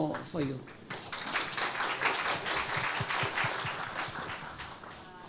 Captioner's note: audience applauds